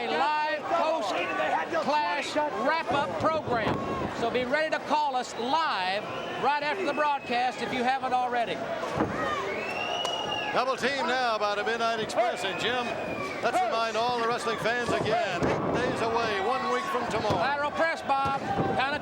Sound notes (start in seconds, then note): 10.1 crowd cheering